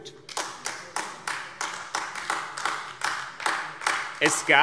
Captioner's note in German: Beifall AfD